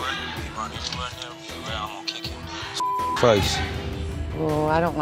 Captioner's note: beep